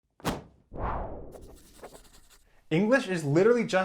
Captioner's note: logo whooshing